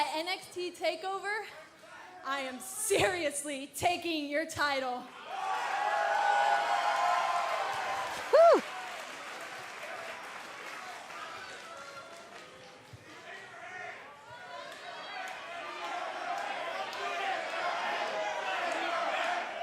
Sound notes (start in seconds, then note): 5.2 cheers & applause